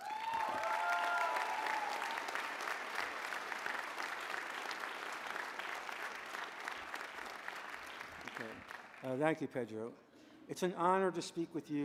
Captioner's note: applause